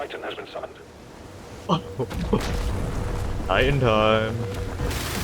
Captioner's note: giggles violently